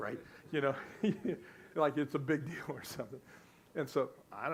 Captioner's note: laughs